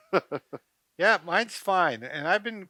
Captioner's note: laughs